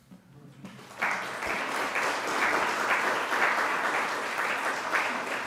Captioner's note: audience applauding